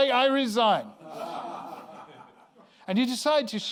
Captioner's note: laughter